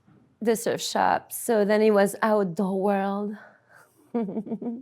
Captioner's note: laughs